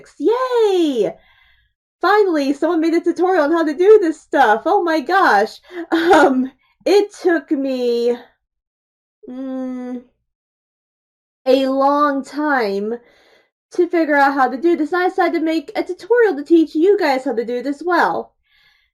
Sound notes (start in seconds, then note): 5.8 awkward laugh and uhm